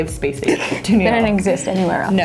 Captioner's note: laughs